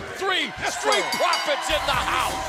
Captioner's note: bell ringing